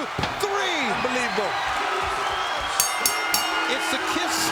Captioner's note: bell ringing